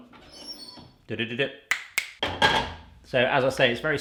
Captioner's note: snapping